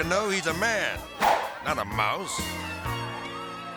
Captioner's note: air swoosh